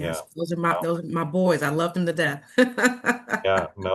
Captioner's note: chuckling